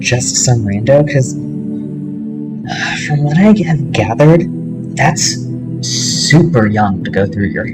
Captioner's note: sigh